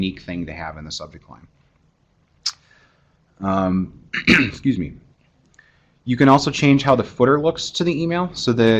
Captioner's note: cough